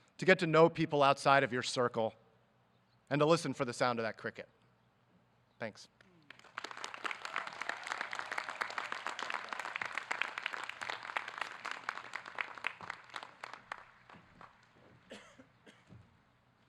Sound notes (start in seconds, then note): 6.8 audience clapping